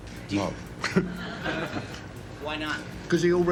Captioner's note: audience laughs